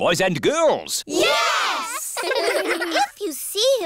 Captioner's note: giggling